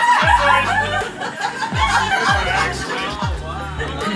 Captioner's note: laughing